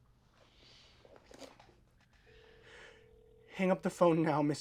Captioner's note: chair creaks